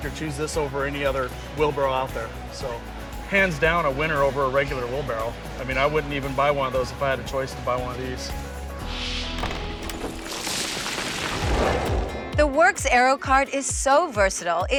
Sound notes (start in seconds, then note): 8.8 wind whooshes; 9.3 rocks clatter